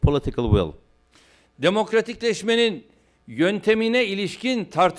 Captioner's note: non-english speech